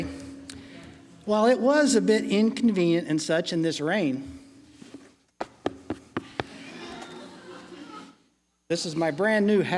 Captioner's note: laughing